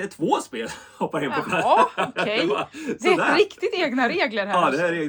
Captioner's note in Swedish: skratt